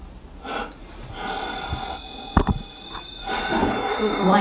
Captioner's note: REM pod beeping